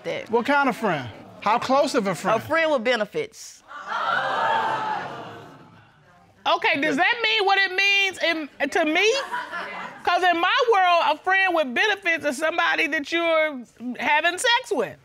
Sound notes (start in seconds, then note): 3.6 audience exclaims